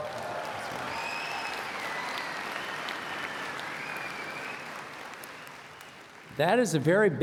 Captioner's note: cheers and Applause